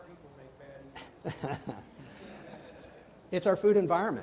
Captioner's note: all laughing